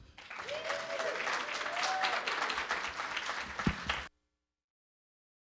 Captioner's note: audience cheering and applauding